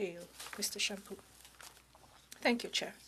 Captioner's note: speaking in French